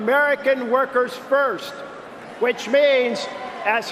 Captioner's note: cheering and applause